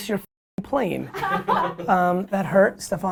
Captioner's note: laughter